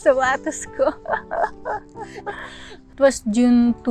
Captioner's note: laughter